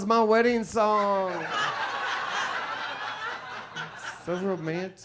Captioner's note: audience laughs